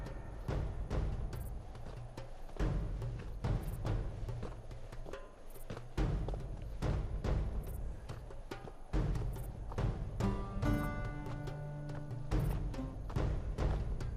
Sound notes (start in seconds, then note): 0.0 dramatic drum music; 3.7 insects chirping